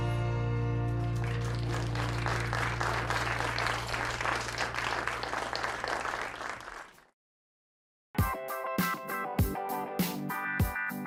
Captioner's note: applause